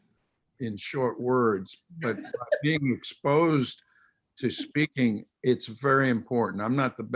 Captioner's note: laughter